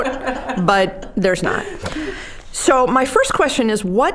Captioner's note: all laughing